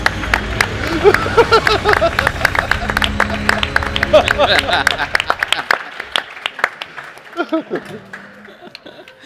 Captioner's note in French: rires et applaudissements